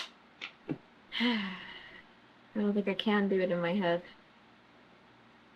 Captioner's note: sighs